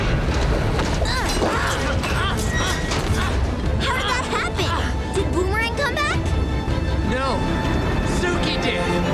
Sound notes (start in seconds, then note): 1.0 grunting